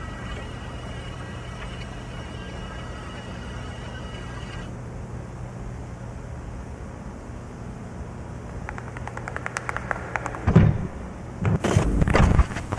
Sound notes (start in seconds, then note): 8.9 footsteps thudding